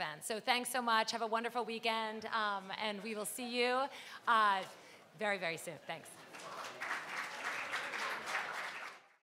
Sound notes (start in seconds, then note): 5.8 crowd; 6.3 clapping